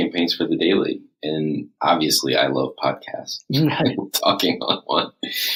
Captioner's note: laughs